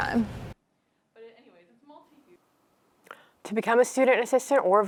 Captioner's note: woman speaks faintly